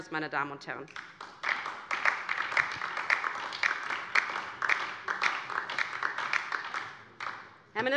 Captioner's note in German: Beifall DIE LINKE